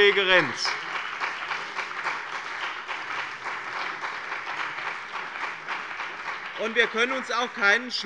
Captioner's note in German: Beifall bei dem BÜNDNIS 90/DIE GRÜNEN und der CDU